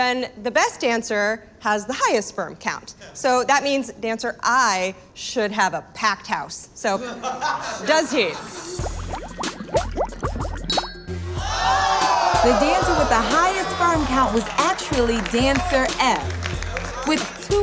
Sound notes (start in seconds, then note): 8.8 water bubbling; 11.3 crowd